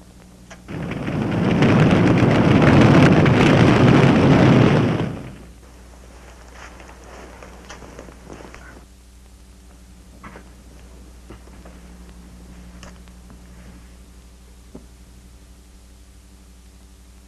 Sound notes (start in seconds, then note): 1.9 flames crackling